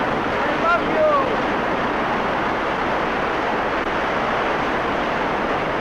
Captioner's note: waves roaring